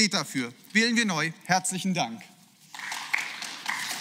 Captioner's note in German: Beifall